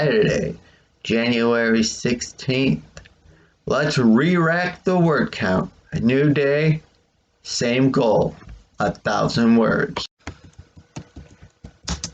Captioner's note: click; tapping of the keyboard